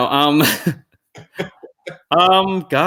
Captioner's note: chuckle